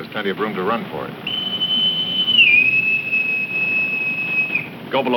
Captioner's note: whistle tooting